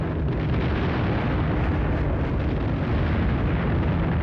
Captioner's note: bombs exploding